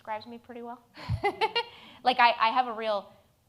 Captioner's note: laughs